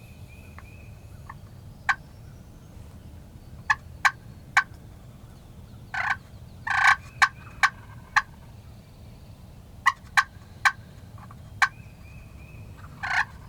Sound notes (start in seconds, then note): 3.9 turkey call